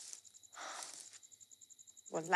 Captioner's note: Sighs